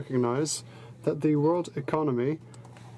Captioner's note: speaking in french